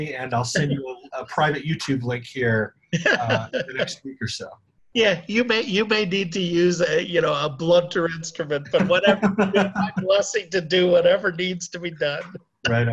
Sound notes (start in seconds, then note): 2.9 laughing; 8.7 both laughing